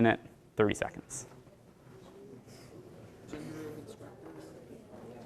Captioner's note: indistinct chatter